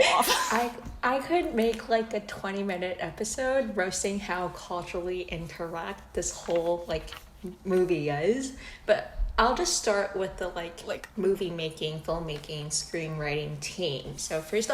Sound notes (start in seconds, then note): 6.1 paper with 938402394 notes ruffles